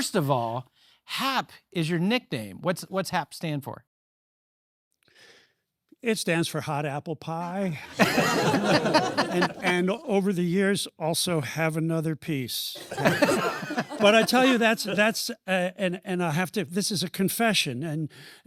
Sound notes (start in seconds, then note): 7.8 laughter